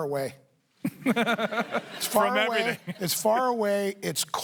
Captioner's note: laughs